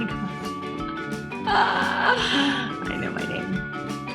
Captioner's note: laughs